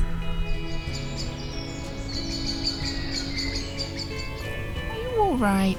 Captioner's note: evening birdsong